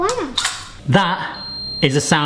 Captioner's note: oven beeping